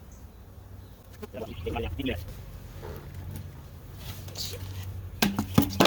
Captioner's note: bees buzzing; sped up talking; box falls on ground